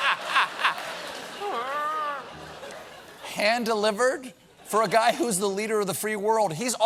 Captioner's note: laughter